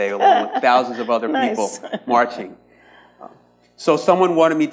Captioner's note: laughs